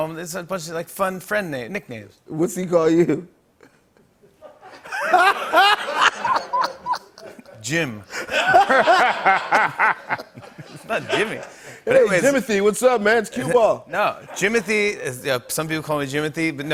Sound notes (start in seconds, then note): 3.6 laughter